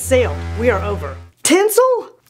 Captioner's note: fog horn blaring